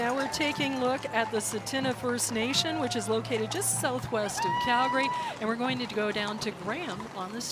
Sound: cheering and Applause

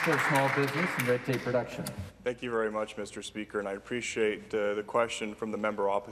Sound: some Applause

